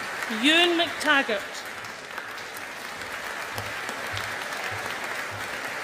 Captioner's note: audience applauding